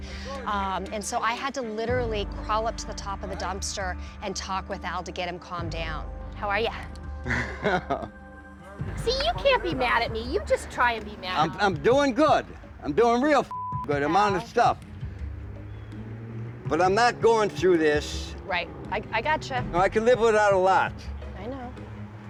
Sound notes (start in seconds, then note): 7.2 chuckles